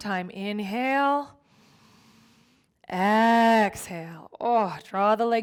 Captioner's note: inhales deeply